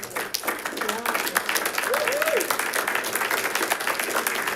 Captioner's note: audience clapping